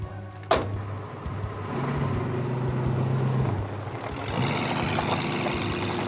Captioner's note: car engine revving